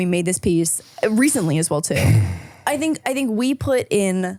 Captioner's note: sighs